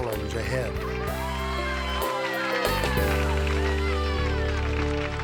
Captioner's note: crowd applauding